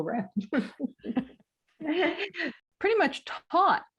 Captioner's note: laughs